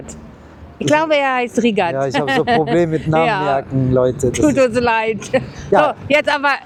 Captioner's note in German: gelächter